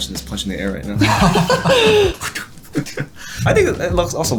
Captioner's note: laughing